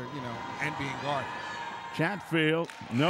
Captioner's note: yelling